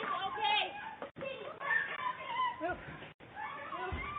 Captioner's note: girl shouting